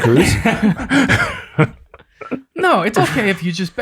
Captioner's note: group laughing